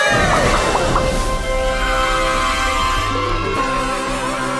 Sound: cheering

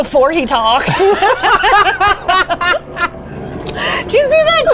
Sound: laughing

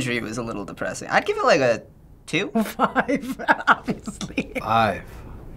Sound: laughs

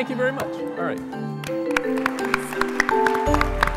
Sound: applause

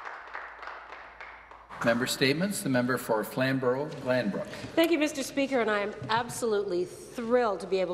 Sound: some Applause

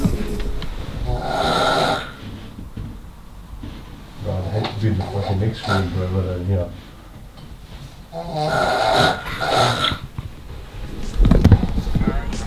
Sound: snoring

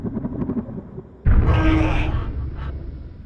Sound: tremor

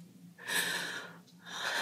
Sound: deep breath

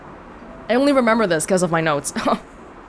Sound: chuckles

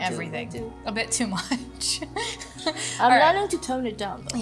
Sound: chuckles

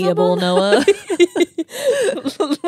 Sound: laugh

